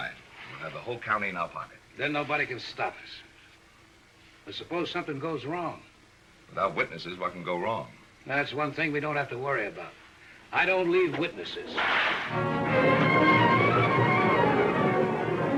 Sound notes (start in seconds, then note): 11.7 cracking whip; 12.3 classical music